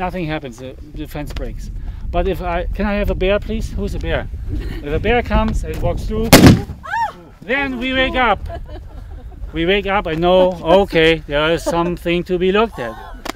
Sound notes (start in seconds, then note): 6.2 loud bang